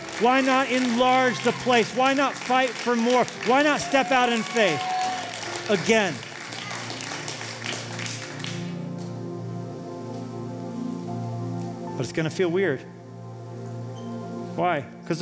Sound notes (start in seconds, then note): 6.0 applause